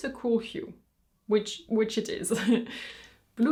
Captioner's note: chuckles